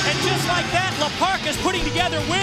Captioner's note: bell ringing